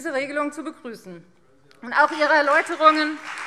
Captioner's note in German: Beifall Freie Demokraten